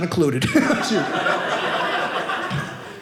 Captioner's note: audience laughing